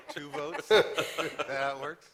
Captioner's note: laughter